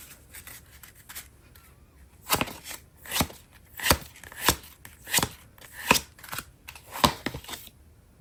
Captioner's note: drawing cards